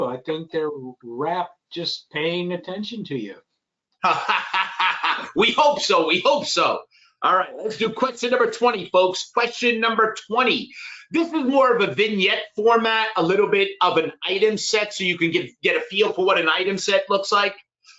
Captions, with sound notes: I think they're wrapped just paying attention to you. - (laughing) We hope so, we hope so. All right, let's do question number 20, folks. Question number 20. This is more of a vignette format, a little bit of an item set, so you can get a feel for what an item set looks like.